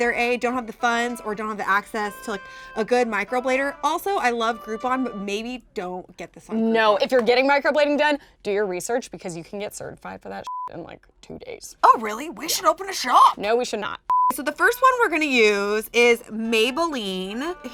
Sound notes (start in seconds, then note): 10.4 beep